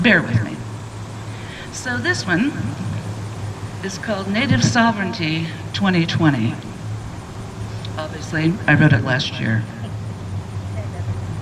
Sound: laughs

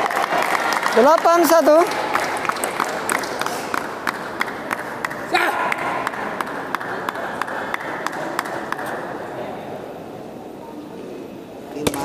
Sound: applause

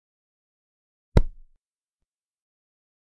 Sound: sound of pillow hit

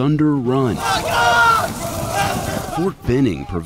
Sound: all yelling

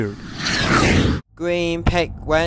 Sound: jet fly

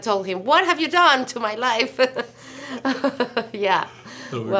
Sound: laughs

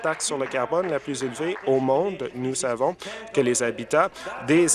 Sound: applause

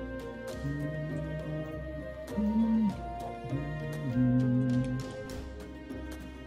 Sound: humming along

